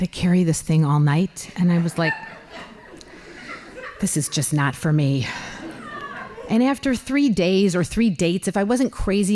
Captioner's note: laughing